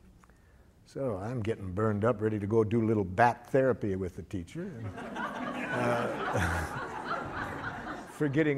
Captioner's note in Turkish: Gülüşmeler